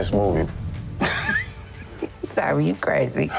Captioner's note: laughs